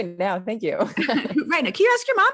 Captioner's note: laughs